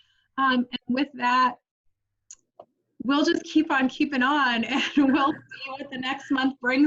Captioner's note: laughs